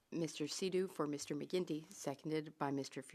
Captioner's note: speaking French